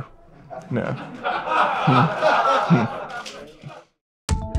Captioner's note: laughs